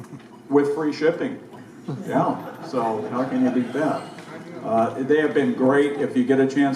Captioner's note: crowd laughs